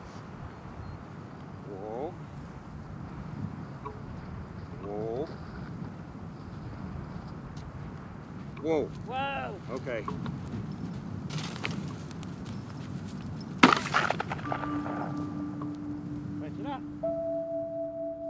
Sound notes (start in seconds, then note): 11.5 wings flutter; 13.8 gun blasts